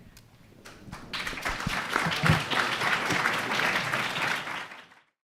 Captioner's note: audience applauding